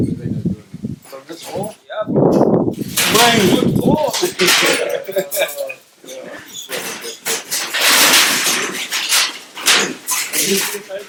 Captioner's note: speaks in Swahili; wind noise; loud clattering sounds